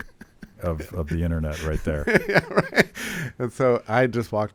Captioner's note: laughs